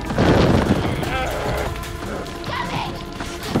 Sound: fire bursting; Ben groaning

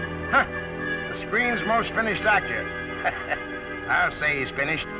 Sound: chuckles

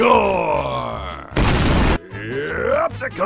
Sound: explosion

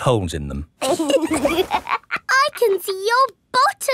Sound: laughs

